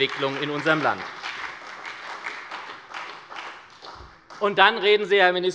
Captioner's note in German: Beifall bei der SPD